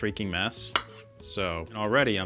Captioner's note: knife chops